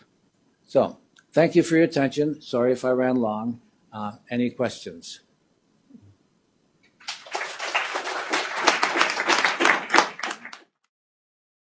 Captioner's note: applause